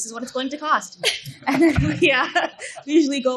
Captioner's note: laughing